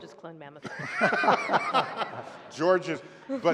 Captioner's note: laughter